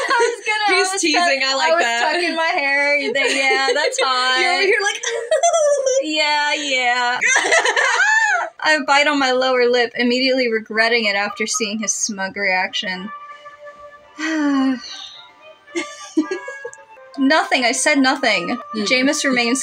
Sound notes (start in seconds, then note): 2.9 laugh; 5.8 giggle; 7.2 trebled Laugh; 14.2 enamored Sigh; 15.7 giggle